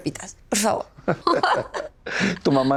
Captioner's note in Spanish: Risas